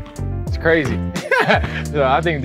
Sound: laughs

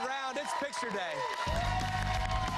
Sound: cheers and applause

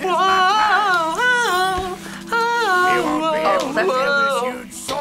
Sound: vocalizing

